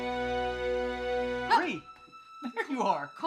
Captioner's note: Bree exclaims